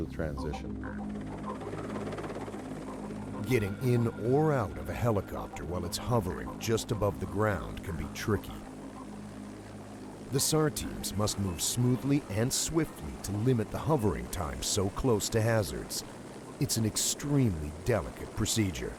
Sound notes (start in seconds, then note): 13.7 voiceover